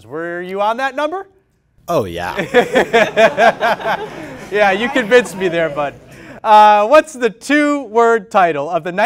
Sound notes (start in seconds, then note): 2.4 laughter